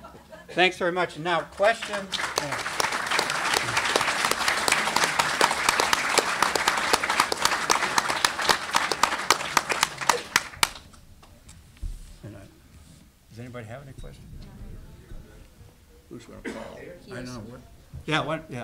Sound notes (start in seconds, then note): 1.4 applause